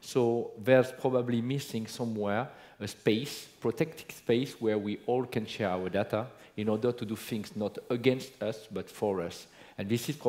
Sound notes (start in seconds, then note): none